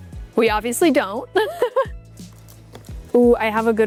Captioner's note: laughing